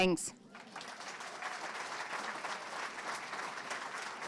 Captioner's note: audience clapping